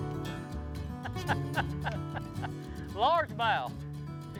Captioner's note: laughs